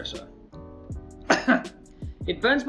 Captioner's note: coughs